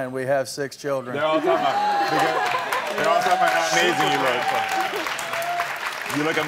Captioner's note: crowd clapping and cheering